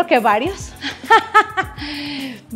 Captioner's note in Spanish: risas